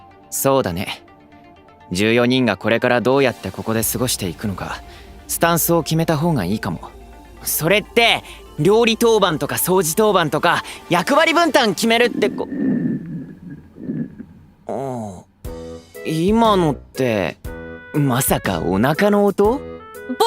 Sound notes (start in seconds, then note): 11.5 someone's stomach rumbling